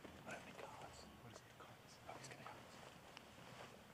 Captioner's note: whispering